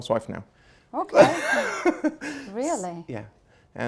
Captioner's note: laughs